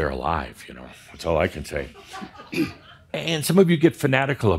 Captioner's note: a few giggles